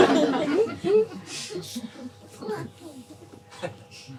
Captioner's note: laughter